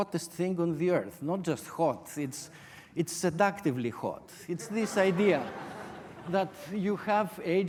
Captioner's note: audience laughter